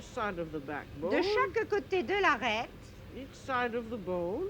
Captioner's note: professor speaking french